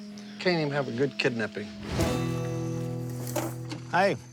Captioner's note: crickets chirping